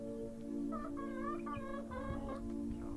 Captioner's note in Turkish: Gıdaklama